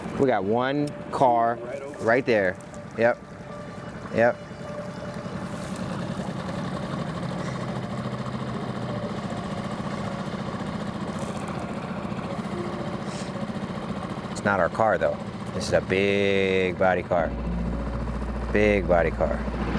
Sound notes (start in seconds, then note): 4.8 gentle music continues; 4.8 motor droning